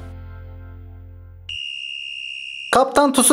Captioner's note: whistle Sound